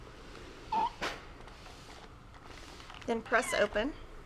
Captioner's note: steam iron squeaking